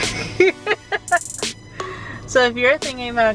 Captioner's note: laughs